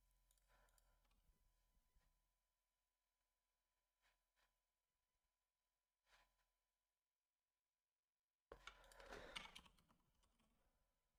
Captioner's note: silence